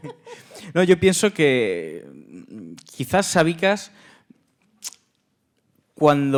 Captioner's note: speaking in Spanish